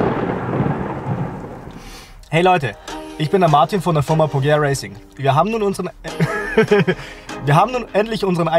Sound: laughter

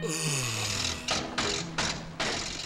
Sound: churning

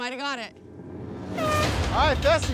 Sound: horn blows

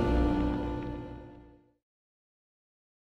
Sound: music fades; silence

